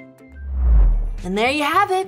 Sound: playful music continues; air whooshing

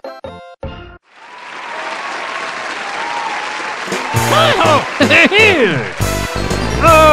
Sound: crowd Cheers

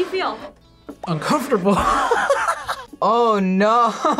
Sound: laughs

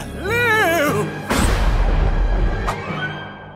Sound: thunderclap

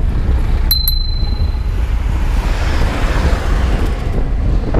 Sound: bell dinging

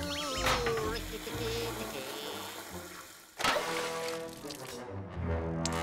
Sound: toilet flushes; light playful music

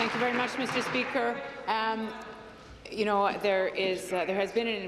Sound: applause

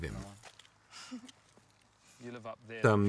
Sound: Alison laughs

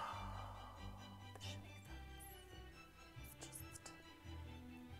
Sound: whispers

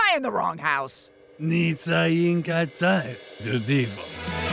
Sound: speaks in foreign language

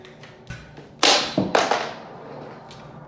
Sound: something drops

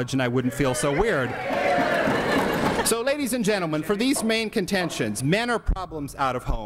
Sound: audience laughs

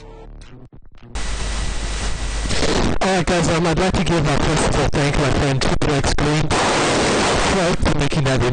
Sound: Static

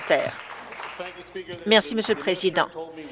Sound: applause

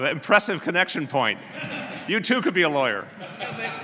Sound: laughter

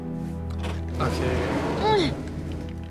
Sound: Clementine grunts

